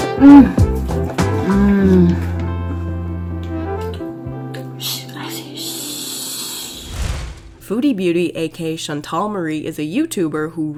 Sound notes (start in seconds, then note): 6.4 hissing sound